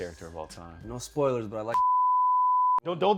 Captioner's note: beep